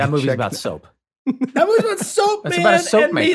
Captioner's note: Rob laughs